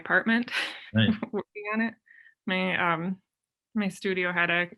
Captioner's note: chuckles